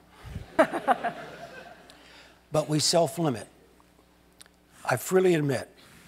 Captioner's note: laugh